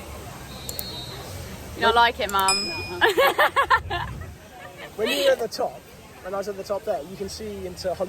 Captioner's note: laughter